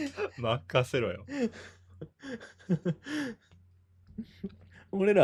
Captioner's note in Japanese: 笑い